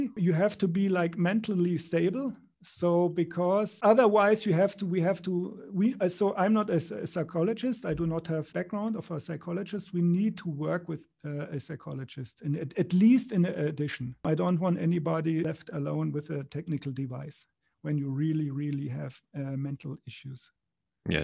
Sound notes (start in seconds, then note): 4.7 stammers